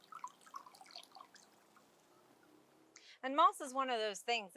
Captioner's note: water dripping